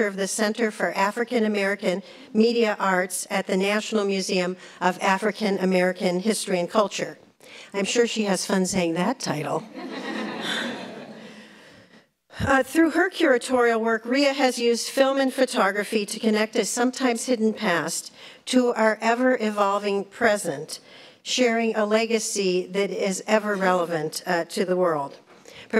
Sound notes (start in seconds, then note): 9.7 laughs